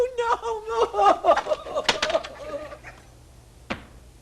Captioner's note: crying